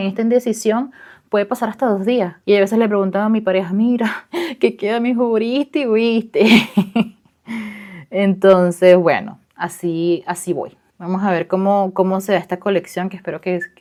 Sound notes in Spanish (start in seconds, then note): 6.4 risas